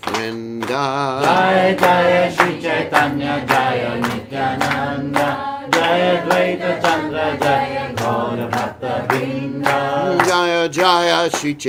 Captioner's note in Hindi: तालियां